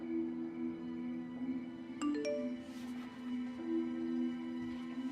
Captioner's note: phone beeps